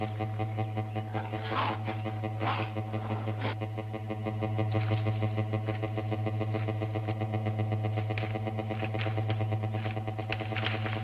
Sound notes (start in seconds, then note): 1.1 growling; 8.0 tense music intensifies